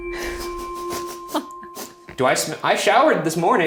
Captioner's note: sniffing